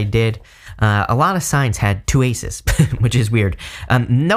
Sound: chuckling

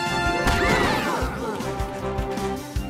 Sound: screams

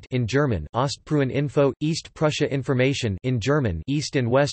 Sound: in German; in German

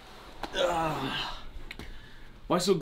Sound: Bethan moans

